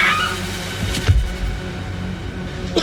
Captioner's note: floor thuds